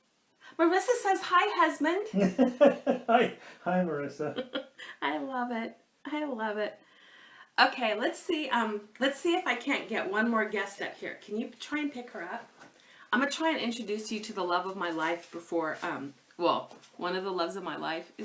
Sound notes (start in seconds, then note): 2.1 laughs